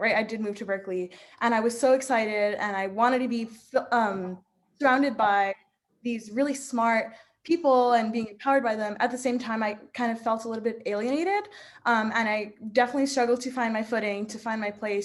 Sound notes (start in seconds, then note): none